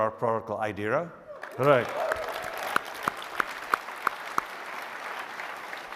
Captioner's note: audience applauds